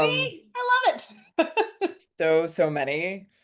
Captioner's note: laughs